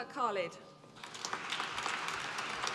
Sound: applause

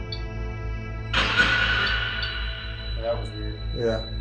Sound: radio noise reverberating

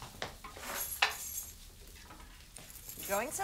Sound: keys jingle

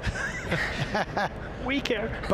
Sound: everyone laughs

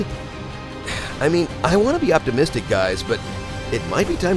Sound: sigh

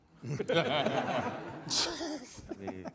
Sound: all laughing

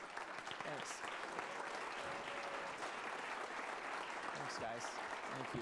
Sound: applause

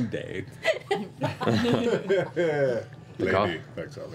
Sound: laughter

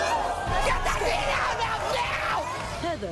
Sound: audience boos; screaming

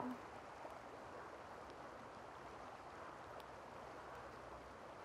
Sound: water flowing

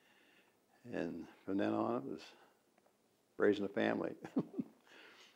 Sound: laughs

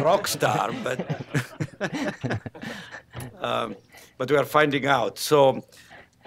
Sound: laughs

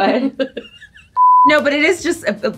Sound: laughter; beep

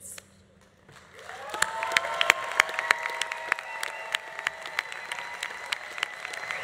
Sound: audience applauding; audience cheering

